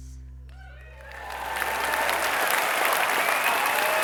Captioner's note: applause